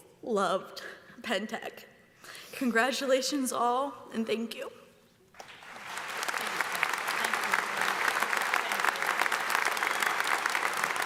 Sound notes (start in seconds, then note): 5.3 audience applauds